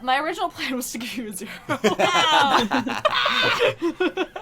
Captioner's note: laughs